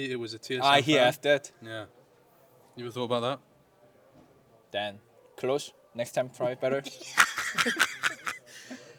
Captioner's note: laughs